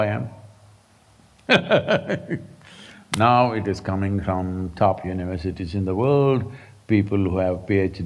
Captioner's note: laughs